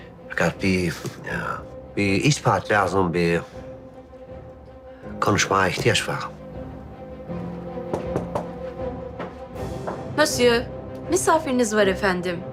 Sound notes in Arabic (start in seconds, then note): 7.8 طرق الباب